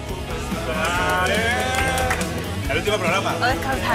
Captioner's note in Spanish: Aplausos